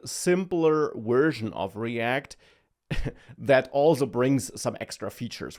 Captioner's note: laughs